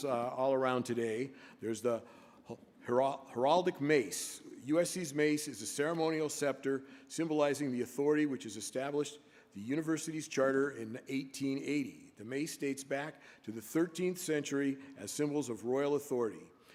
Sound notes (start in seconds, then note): none